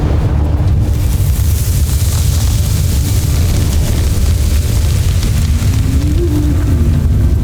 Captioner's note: music swells; evil energy whoosh-crackle; tense music playing